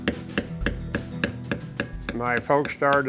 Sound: hammering

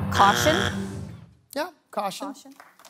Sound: buzzer sounds

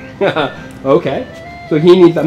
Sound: laughs

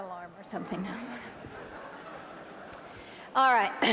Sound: laughter

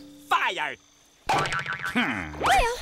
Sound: groaning

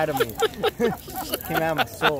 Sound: laughing

